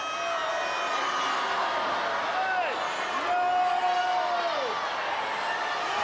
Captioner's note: audience booing continues